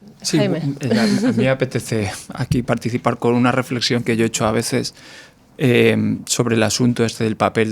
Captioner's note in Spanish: risas